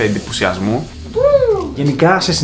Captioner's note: sound of excitement